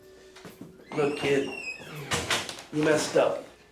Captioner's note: door closes